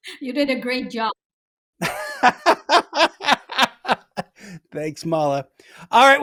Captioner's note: laughs